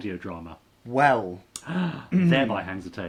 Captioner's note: gasping